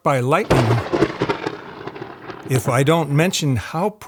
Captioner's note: thunder cracks and rumbles